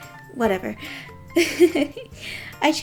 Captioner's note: giggles